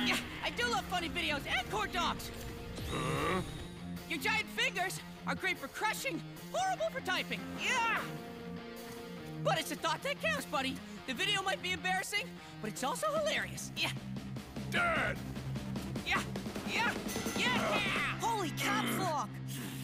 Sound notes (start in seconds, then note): 13.5 grunting; 17.0 dinging